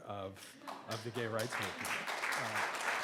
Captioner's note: clapping